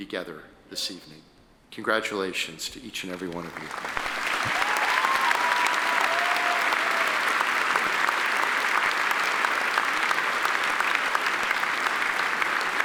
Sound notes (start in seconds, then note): 4.0 attendees applaud